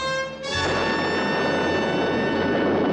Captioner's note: exploding